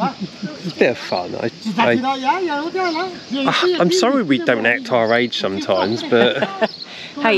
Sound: laughter

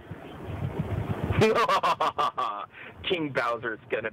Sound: laughs evilly

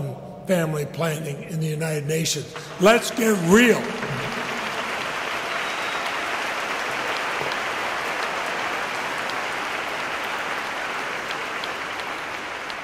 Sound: applause

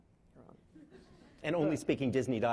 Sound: laughing

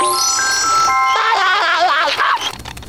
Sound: laughing

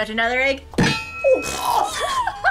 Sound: egg thumps; laughs

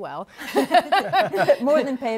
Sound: laughter

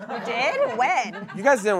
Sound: audience laughing

